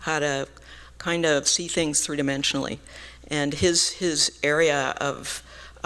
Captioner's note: none